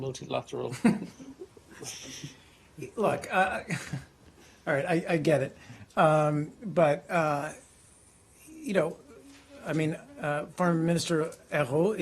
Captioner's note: laughter